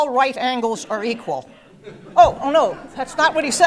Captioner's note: laugh